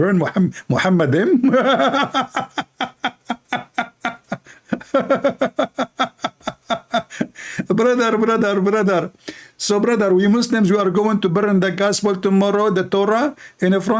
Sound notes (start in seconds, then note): 1.2 Ketawa